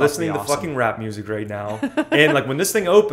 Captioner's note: laughter